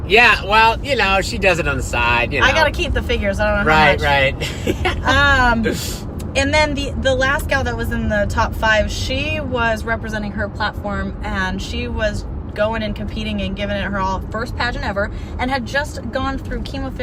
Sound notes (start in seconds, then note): 4.0 laughs